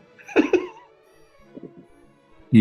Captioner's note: giggling